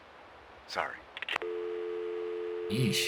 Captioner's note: phone hangs up